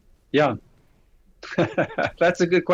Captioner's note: laughs